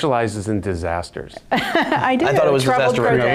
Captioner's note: laughing